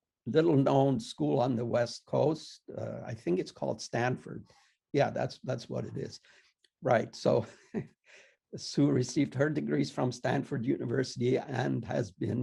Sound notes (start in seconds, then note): 7.2 chuckles